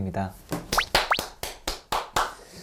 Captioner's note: self applause